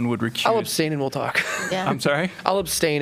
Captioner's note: laughter